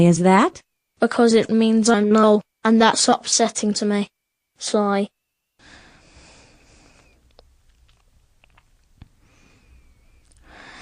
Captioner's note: breath